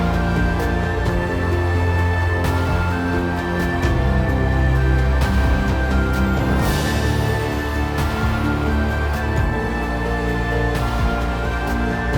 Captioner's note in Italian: Applauso